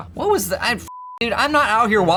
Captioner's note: beep